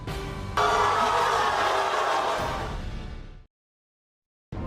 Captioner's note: audience boos